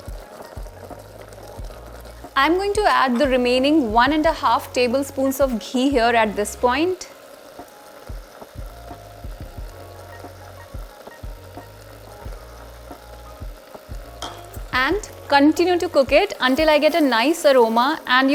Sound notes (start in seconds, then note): 0.1 sizzling sound; 7.1 sizzling sound; 7.1 soft music